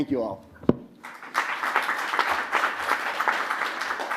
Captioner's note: applause